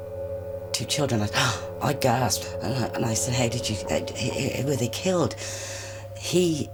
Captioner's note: gasping